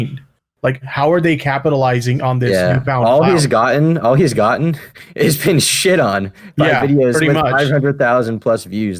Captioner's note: laughs